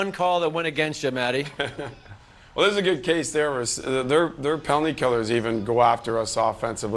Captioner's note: laughter